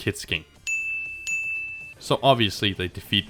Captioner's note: ding